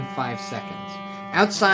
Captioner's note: horn honks